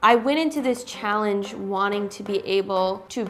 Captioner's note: none